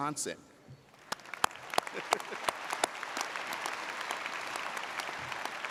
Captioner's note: audience applauding